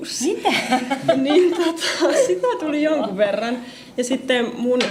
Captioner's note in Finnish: naurua